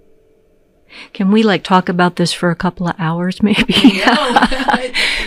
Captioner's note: chuckles